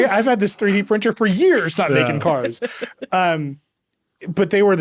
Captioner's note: laughing